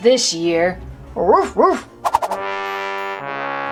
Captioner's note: dog barks; ominous music plays